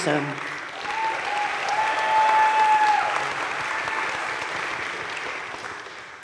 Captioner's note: crowd cheering and applauding